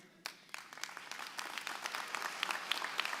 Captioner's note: applause